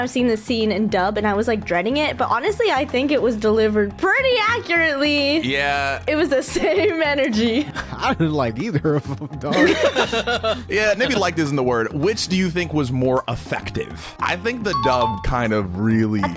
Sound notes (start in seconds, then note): 9.4 everyone laughing